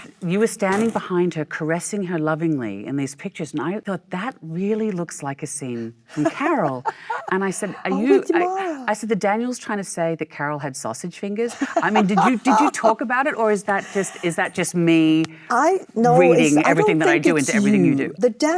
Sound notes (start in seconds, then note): 6.1 Michelle laughs; 8.8 Michelle mumbles; 11.5 Michelle laughs